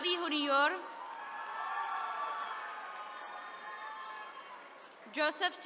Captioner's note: attendees cheering